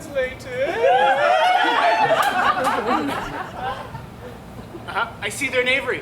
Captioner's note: audience laughs